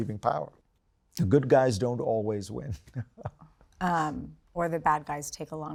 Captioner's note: chuckles